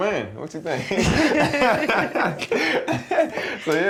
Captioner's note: laughter